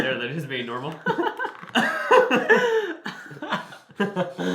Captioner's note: both laugh